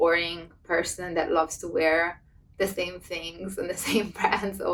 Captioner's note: laughs